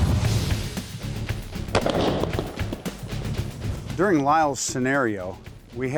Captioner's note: guns shots